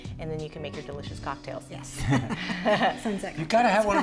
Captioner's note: laughs